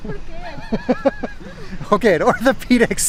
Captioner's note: laughs